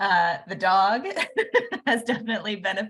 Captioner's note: laughing